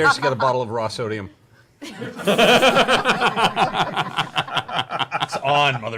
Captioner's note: laughter